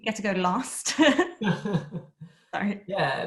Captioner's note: laughter